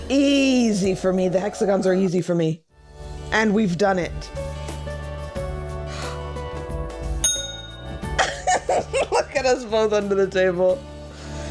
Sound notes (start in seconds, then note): 7.2 ding; 8.2 snickering